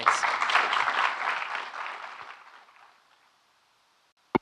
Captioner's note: audience clapping